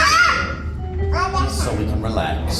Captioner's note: Princess yelling